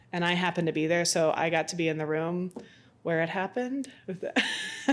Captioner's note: laughs